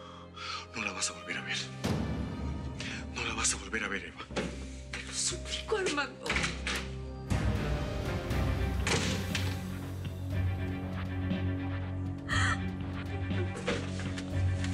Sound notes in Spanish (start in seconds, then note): 6.6 Portazo